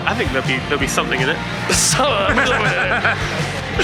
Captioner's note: laughs